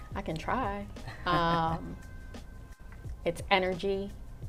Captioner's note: laughs